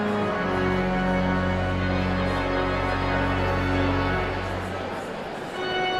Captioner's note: audience chatter continues; pipe organ music continues